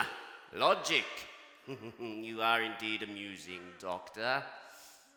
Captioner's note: laughs